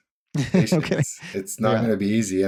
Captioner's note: laughs